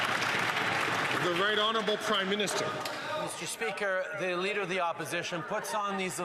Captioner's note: some Applause